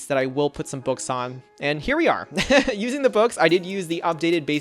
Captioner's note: laughs